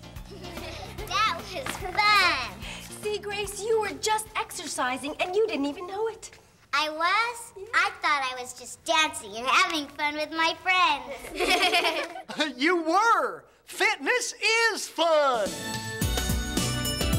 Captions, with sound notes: - That was fun. - See Grace, you were just exercising and you didn't even know it. - I was? I thought I was just dancing and having fun with my friends. (laughter) - You were. Fitness is fun.